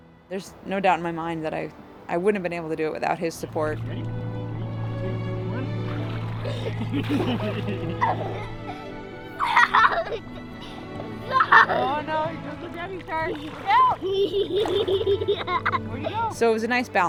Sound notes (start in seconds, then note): 6.3 laughs; 13.2 laughs